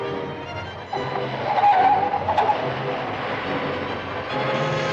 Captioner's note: tires screeching